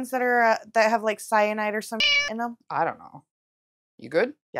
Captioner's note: meow